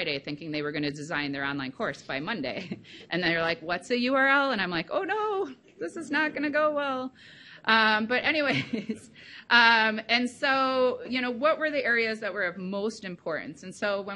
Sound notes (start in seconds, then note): 2.6 chuckles; 9.3 laughs